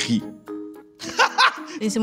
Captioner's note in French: rire